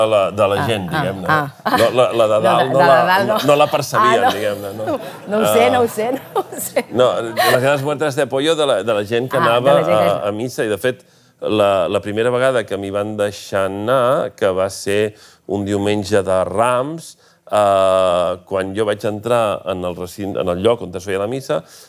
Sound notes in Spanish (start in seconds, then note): 1.3 ríe; 5.8 risas